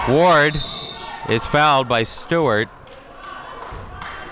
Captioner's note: whistle blows